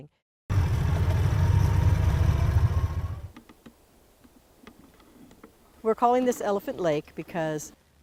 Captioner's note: car sounds